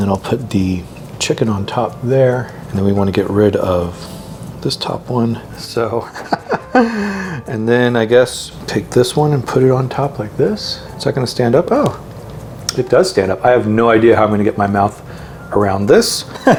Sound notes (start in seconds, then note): 6.0 chuckles